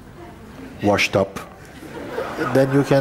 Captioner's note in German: Lachen